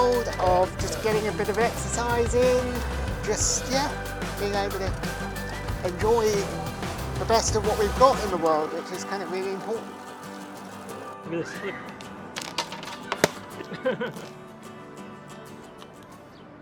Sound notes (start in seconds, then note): 13.0 laughs